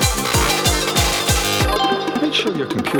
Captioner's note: windows 95 log off sound